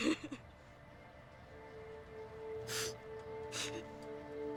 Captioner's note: sobbing